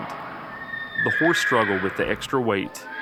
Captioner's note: horse neighing